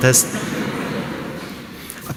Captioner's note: laughter